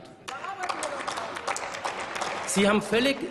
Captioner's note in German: Applaus